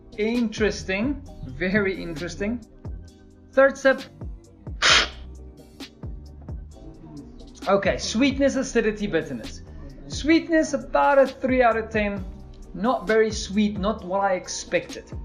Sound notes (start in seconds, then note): 4.8 slurping